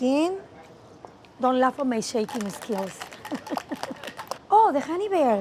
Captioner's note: laughing